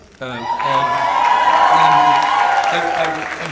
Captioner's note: audience cheers